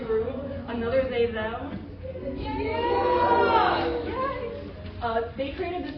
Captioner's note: cheering